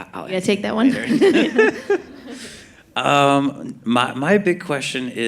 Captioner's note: laughter